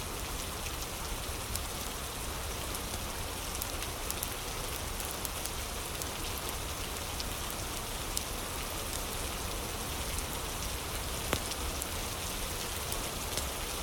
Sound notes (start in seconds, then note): 0.0 fire crackling